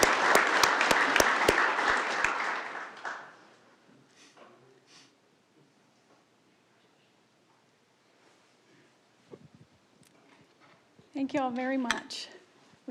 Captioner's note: applause